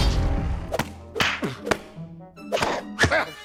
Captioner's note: grunting